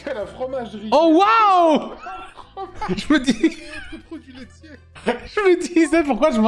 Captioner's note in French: rire; en riant